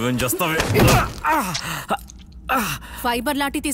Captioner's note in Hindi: कराहना